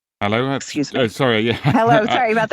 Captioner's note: laughs